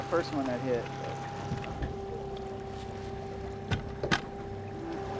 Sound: trolling motor humming

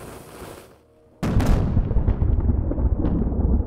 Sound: explosion

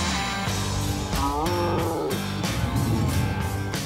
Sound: muted roar

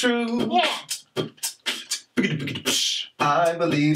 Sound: Mr. Root vocalizing, beatboxing

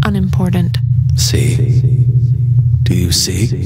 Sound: voice echoing

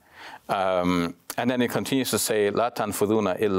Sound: speaks in Arabic

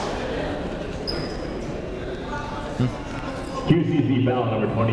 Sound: people talking in the crowd

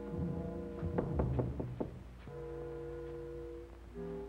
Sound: knock on door

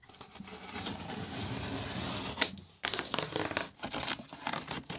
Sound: knife slicing tape

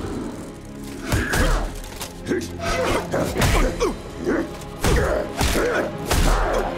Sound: grunting

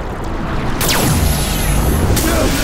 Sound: zapping; groans

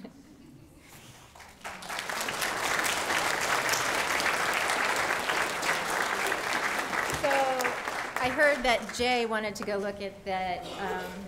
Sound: applause

